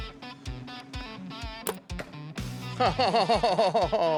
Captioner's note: arrow shot; chuckles